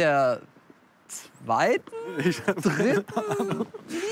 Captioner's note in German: lachen